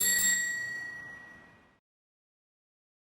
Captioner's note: bell chimes